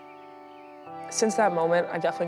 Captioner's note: serene water flowing, birds chirping